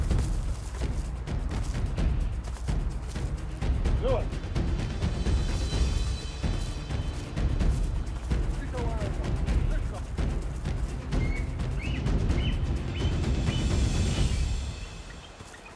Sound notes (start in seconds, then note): 3.4 blackfeet talking